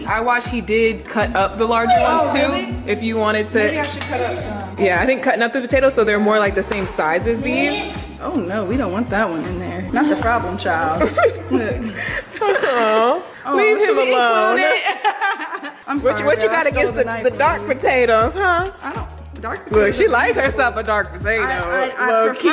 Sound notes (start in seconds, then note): 10.8 giggling; 14.1 laughing